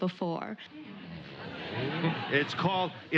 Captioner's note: audience laughs